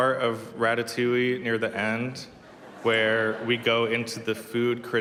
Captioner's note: laughter